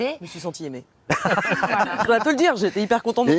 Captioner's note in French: rires